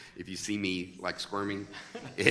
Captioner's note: laughing